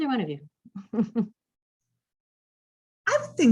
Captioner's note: laughs